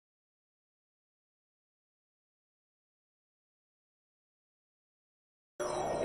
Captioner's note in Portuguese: sem áudio